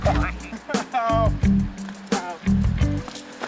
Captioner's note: laughing